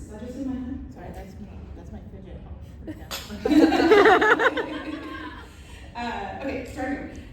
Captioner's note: laughter